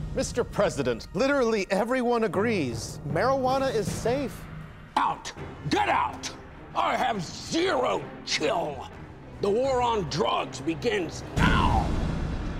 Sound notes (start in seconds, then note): none